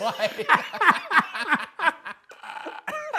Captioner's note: both laugh